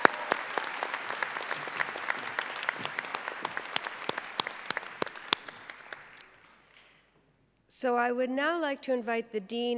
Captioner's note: applause